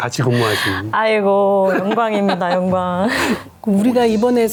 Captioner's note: laughs